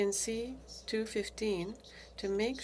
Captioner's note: speaking French